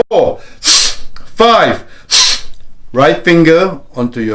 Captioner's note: deep breaths